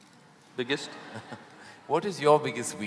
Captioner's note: laughter